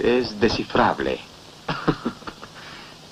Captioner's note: chuckles